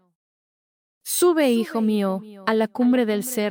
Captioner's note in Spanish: Voz - Virgen María